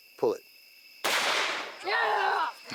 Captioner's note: shotgun firing; grunting